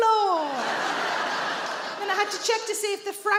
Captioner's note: audience laughs